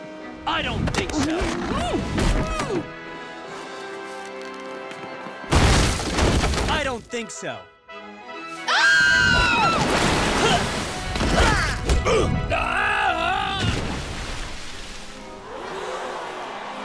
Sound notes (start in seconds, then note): 8.6 woman screaming; 9.4 water splashing; 12.5 screaming and falling; 15.4 audience surprised